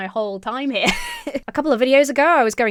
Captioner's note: chuckles